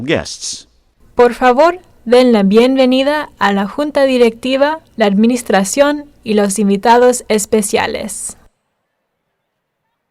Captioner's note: speaking Spanish